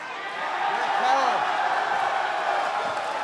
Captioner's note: cheers & applause